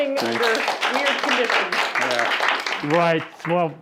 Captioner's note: students clapping